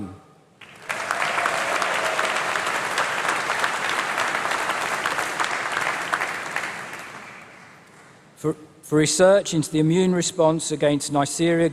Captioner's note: applause